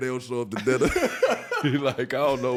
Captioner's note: laughing